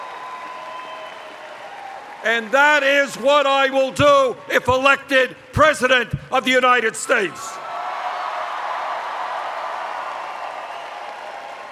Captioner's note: cheers